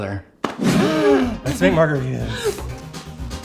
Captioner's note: gasps